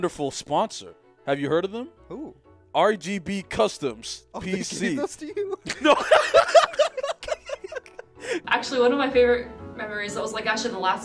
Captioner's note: laughter